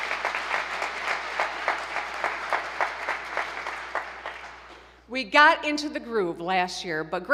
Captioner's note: applause